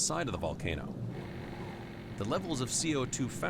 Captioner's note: vibrating